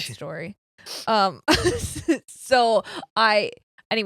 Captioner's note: laughing